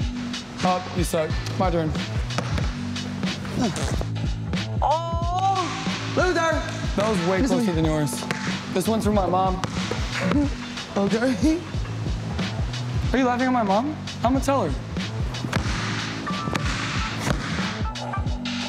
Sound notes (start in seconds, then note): 3.3 farts; 10.0 laughs; 16.0 light music